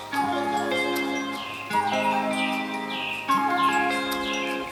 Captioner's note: birds chirping